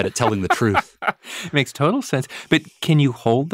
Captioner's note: laughs